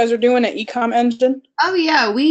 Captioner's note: murmurs